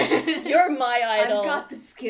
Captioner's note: laughter